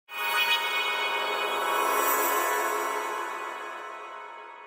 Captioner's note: bright swooshing